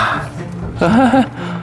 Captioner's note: 苦笑